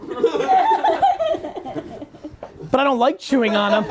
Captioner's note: laughing